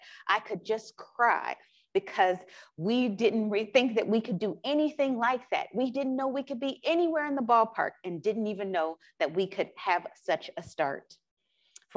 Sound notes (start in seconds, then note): none